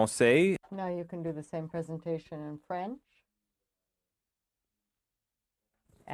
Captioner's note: speaking French